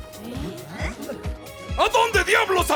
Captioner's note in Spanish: Los Banzai suspiran nerviosamente